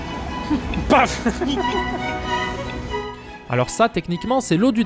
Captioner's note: laughs